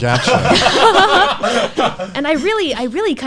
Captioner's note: laughs